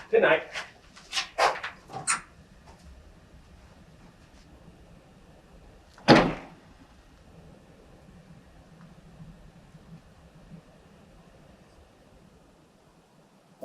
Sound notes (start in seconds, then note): 6.0 door closes